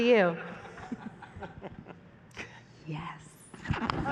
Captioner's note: laughter; laughter